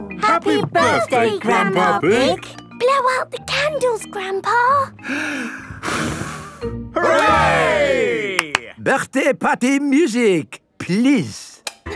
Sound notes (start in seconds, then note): 5.0 breathes deeply, blows; 8.3 claps